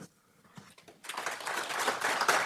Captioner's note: applause